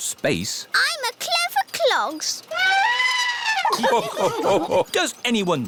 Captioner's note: trumpets; all laugh